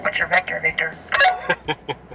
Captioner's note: beep; chuckles